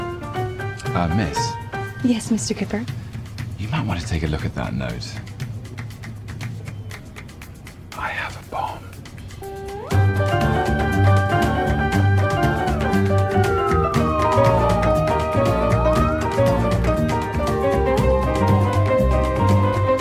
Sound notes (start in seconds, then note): 7.2 whispers